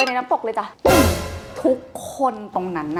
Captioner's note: bam